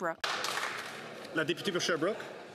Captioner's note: some Applause